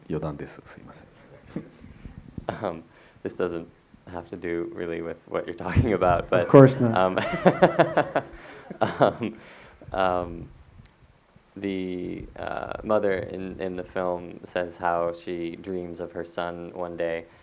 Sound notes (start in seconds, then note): 6.3 laughter